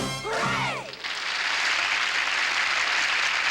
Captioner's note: applause